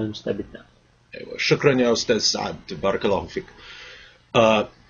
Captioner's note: speaking Arabic